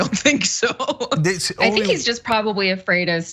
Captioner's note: laugh